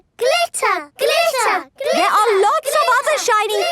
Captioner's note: chanting